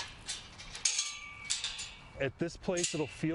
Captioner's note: gate opening